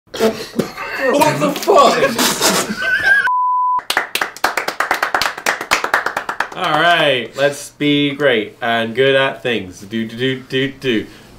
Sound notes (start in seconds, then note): 0.2 laughing; 3.2 beep; 3.8 clapping hands